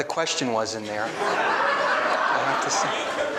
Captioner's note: laughing